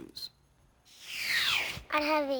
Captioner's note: picture whooshes